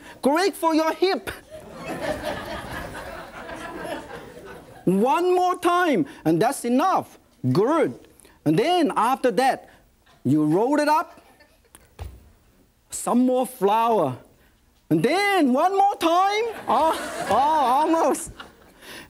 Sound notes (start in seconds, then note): 1.5 audience laughs; 16.5 audience laughs